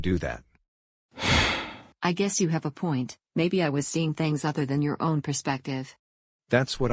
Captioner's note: sighs heavily